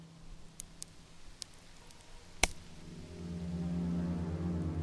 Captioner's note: sticks cracking